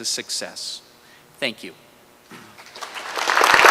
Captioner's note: applause